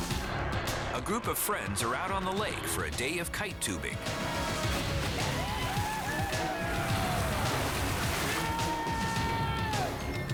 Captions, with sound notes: A group of friends are out on the lake for a day of kite tubing. (people cheering)